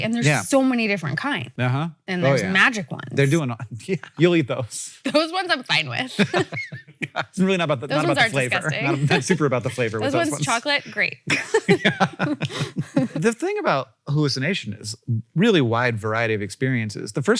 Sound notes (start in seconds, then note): 6.0 Hank laughs; 11.2 Rachel and Hank laugh